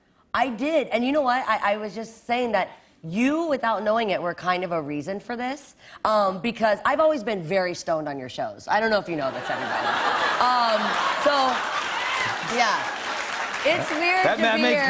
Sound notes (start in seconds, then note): 9.4 laughter and applause